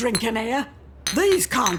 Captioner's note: bottles clink